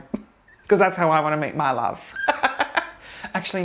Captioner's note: laughs